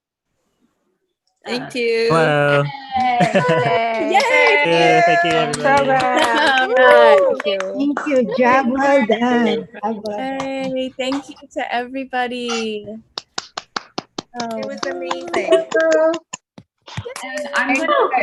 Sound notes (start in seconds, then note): 6.6 applause & cheers; 13.2 applause